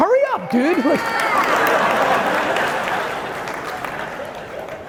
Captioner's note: audience laughing